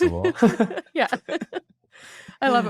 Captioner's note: laughs